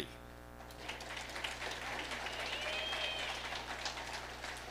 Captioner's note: audience applauding